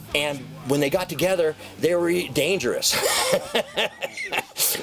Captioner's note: laughs